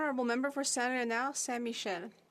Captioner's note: speaking French